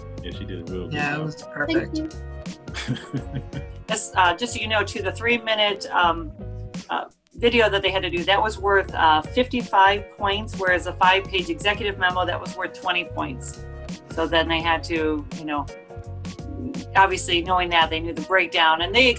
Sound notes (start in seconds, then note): 2.8 laughs